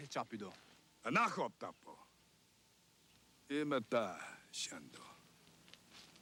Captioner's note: man speaks Indigenous language